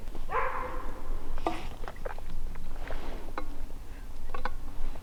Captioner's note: animal howling